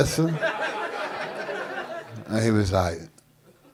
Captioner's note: audience laughing